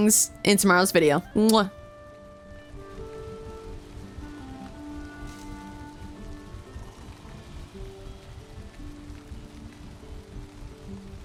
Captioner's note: kiss